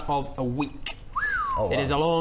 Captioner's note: whistle